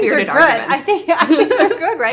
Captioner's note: both laugh